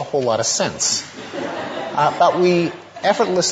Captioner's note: audience laughter